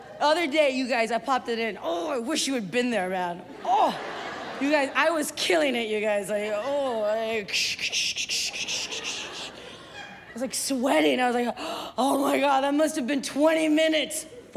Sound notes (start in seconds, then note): 7.4 making maracas sounds